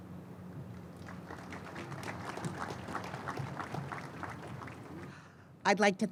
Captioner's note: applause